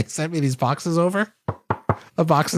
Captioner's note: knocks on boxes